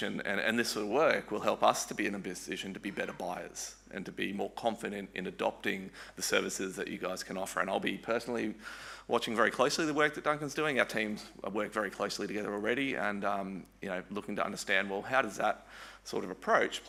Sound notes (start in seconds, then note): none